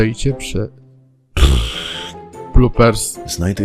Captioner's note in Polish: pfft